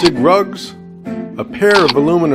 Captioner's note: camera click